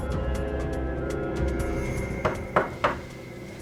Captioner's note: knocks